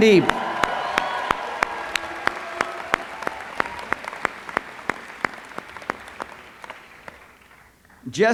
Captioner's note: applause